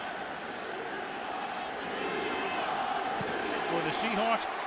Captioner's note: crowd chanting "seahawks"